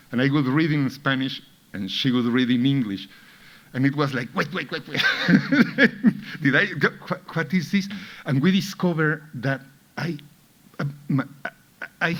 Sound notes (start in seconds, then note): 4.4 laughs